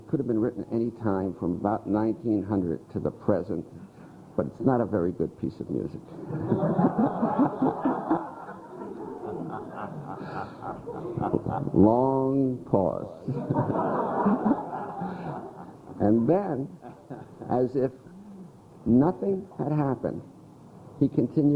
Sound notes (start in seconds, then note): 6.1 laughter